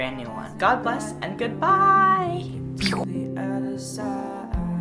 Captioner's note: mouth made sound effect